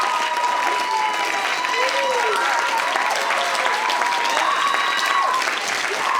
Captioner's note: applause